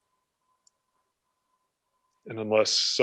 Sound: clicking

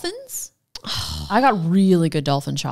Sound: sighs

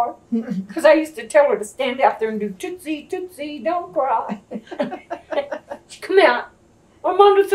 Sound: laughter

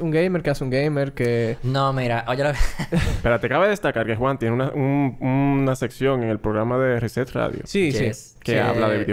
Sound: laughs

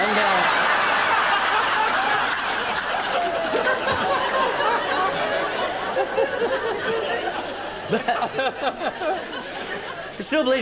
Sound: laughter

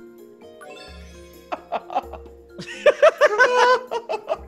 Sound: laugh

